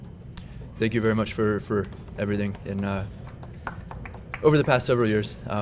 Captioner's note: applause